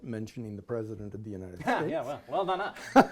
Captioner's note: laughs